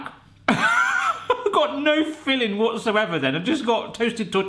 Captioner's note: laughs